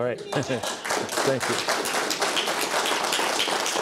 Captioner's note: applause